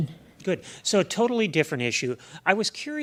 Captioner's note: voiceover